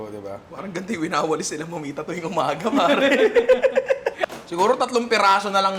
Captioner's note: laughs